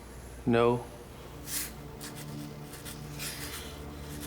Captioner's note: pen scrapes